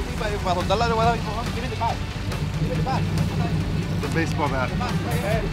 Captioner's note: fish thrashing in the water